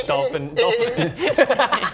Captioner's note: aquatic sheep noises